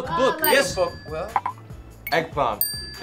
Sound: bell dings

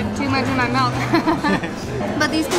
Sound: both laugh

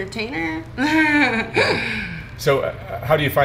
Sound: laughs

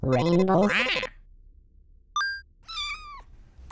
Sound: interrupting squawk

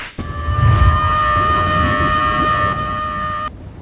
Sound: Lunk scraming

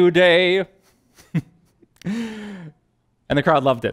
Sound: pastor: Laughter

